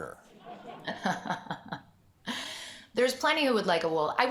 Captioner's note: laughs